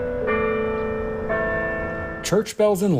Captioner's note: church bells ringing